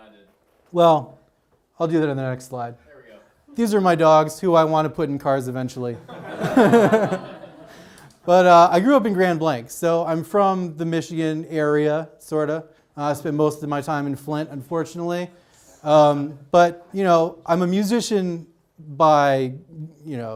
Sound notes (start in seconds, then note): 6.1 audience laughs